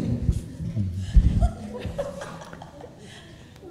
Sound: laughter

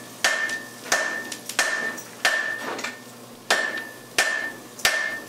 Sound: hammering

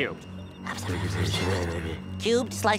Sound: whispering

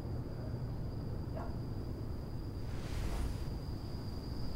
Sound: crickets chirping

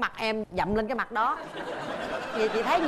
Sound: laughing

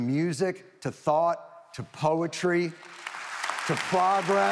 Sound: audience applauding

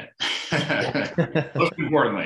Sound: both laughing

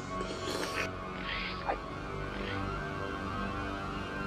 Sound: slurping

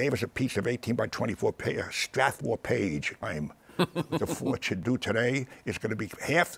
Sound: laughs

